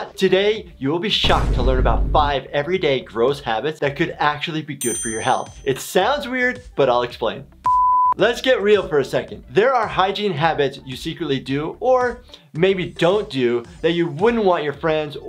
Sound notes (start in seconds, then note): 1.2 drum booming; 7.7 beeping